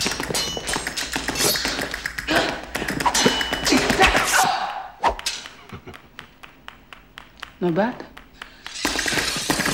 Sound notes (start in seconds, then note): 1.6 grunting; 5.6 chuckles